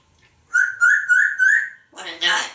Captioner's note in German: whistling